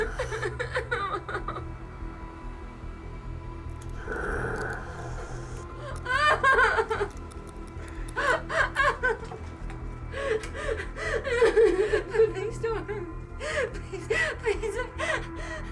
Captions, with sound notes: (Emma sobbing) (tense music) (Meathook Man growling) (Emma sobbing) Please don't hurt me. Please, please.